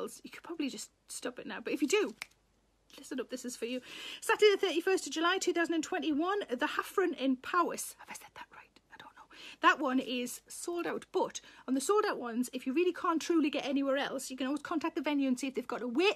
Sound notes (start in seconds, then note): 2.1 fingers clicking; 8.1 Sarah whispers